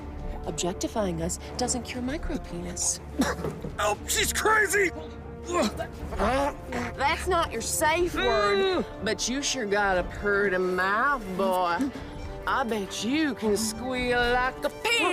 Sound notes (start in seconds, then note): 5.5 Hubert groans; 8.0 Hubert groans